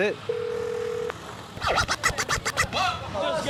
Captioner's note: phone rings